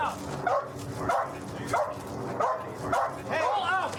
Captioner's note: dog barking